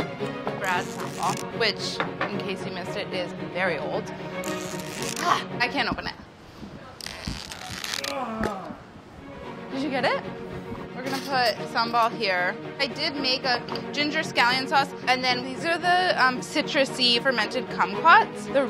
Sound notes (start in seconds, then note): 4.4 squeaking; 7.0 squeaking